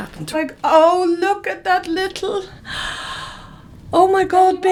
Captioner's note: she gasps